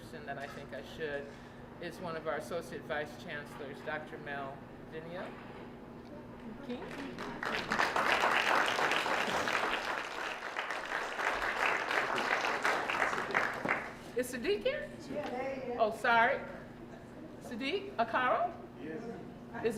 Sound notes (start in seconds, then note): 6.8 applause